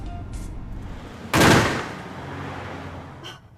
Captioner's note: crashing